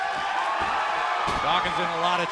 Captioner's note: cheers and applause